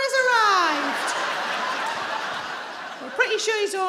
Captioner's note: crowd laughs